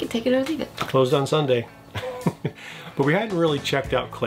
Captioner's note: laughs